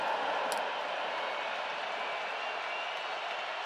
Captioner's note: crowd cheering